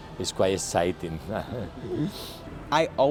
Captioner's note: giggle